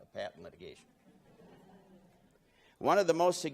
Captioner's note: laughing